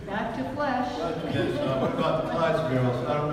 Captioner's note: audience laughs